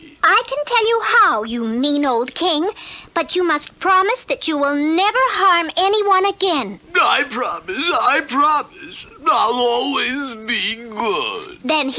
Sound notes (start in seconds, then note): none